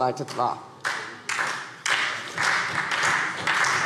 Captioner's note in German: Beifall SPD und Freie Demokraten